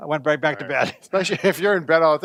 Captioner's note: laughs